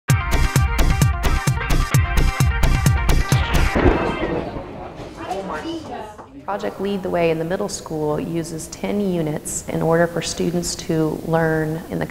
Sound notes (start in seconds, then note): 0.2 intense music; 3.2 kids chattering